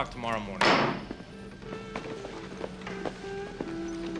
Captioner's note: gavel bangs